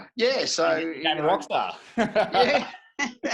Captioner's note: laughing